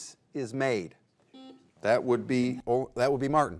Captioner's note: buzzer buzzes